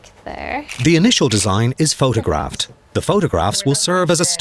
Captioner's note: voiceover